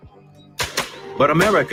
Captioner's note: gunshots booming